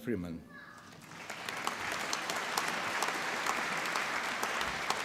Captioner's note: applause